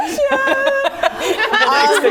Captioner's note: laughing